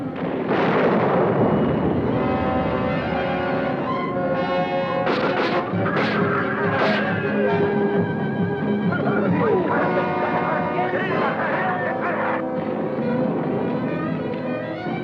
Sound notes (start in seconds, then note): 2.6 adventurous orchestral music; 9.0 men clamoring